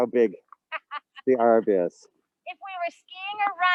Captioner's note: laughing